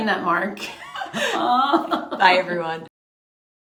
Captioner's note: laughs